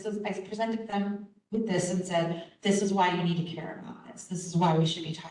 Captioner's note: none